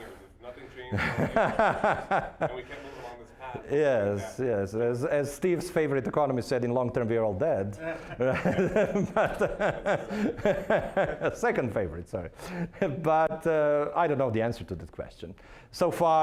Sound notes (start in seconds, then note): 0.9 laughing; 7.8 laughing